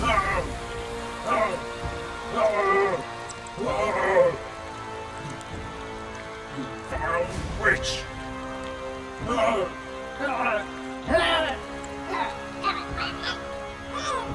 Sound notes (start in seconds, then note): 0.0 leprechaun groaning; 0.0 sinister music; 2.7 liquid sizzling; 9.3 leprechaun groaning